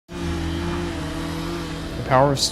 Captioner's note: chainsaw